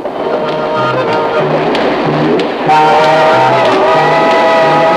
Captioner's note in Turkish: Tren tekerleklerin raylardaki tıkırtısına tren düdüğü karışır